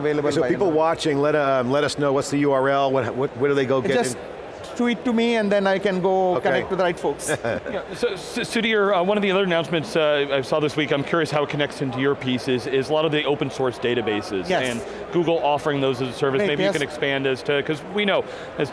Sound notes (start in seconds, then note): 7.6 laughs